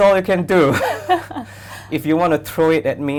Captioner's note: laughs